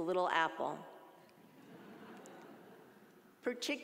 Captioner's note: audience laughing